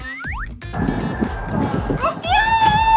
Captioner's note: actual chicken clucking